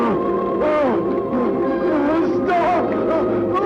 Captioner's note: groaning